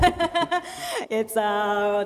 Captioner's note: laughs